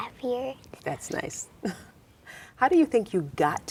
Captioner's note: laughs